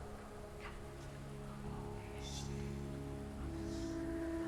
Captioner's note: faint whispering